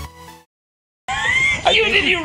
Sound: laughing

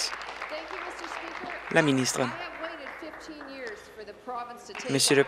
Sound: applause

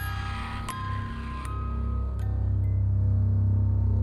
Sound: dark Ominous Sound

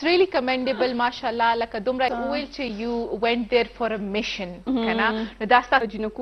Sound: speaking in foreign language

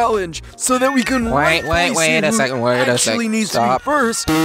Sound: cats meowing the "Happy Birthday" song

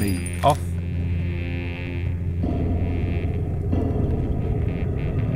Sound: glass shatters, buzzing, pipes rattling

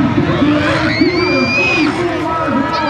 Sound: crowd cheering

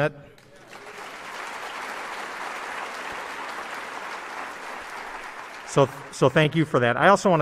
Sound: applause

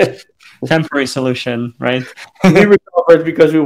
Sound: laughs; laughs

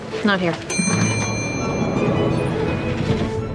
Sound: elevator dings

